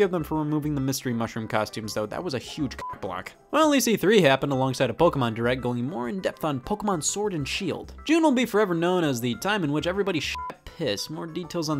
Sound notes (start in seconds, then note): 2.8 beep; 10.3 beep